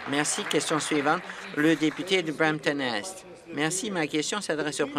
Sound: applause

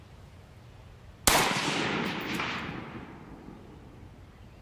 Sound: gun firing

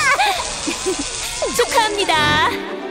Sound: giggling

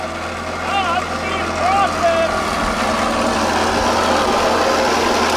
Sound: loud machines while talking

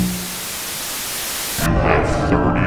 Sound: TV screen hisses

